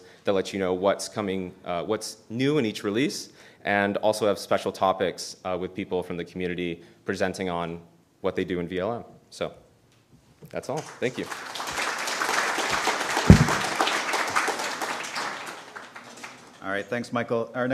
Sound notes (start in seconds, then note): 13.2 applause